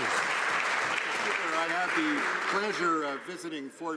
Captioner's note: some Applause